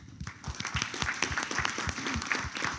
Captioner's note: applause